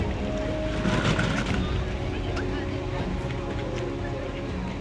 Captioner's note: people chattering